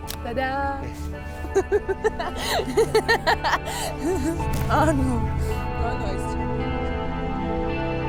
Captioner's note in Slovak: Smiech